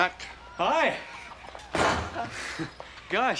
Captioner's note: sighs